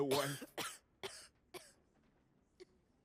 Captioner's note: coughing